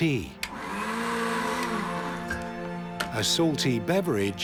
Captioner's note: blender whirring